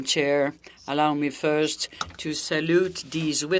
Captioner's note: speaking French